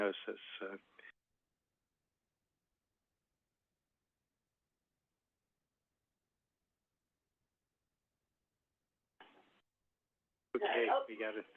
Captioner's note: silence